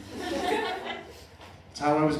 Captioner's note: laughter